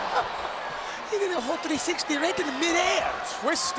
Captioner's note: laugh